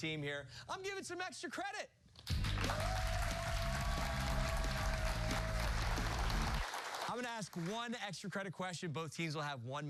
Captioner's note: cheers and applause